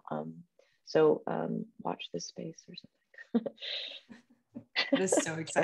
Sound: chuckles

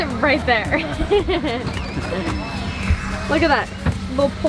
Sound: laughing

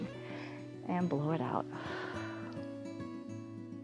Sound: exhales

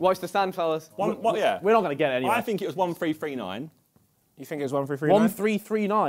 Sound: none

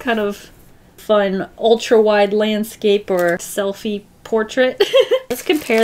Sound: laughs

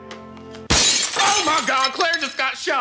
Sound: glass shattering

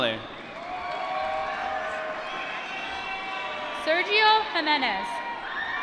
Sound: applause

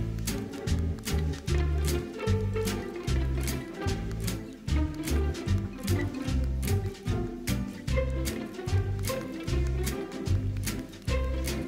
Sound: jaunty music; applause

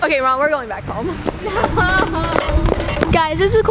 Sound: cartoon running

